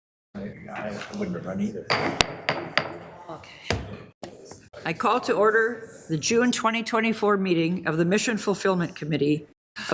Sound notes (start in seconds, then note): 1.9 gavel tapping